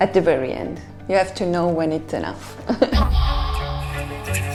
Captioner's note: laughs; intense orchestral music